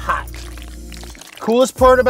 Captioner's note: squelching